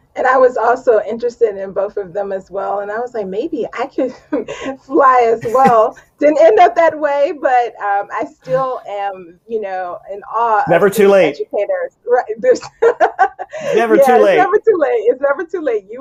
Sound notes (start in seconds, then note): 5.4 chuckles; 5.4 laughs; 12.4 laughs